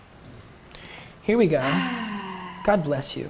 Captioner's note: sighs